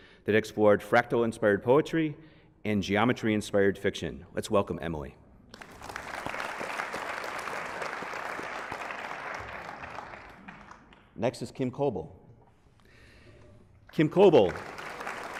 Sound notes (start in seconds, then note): 5.5 applause